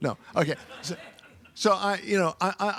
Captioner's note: audience laughing